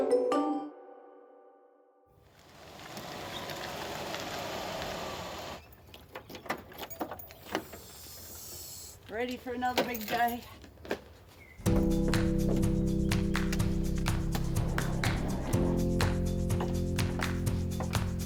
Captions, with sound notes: (trunk door opening) - Ready for another big day. (soft upbeat music)